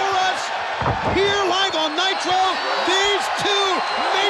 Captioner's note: body thudding